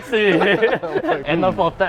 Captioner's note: laugh